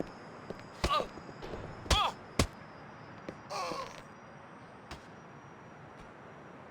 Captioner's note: character grunting; punches smacking